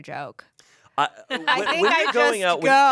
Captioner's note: laughs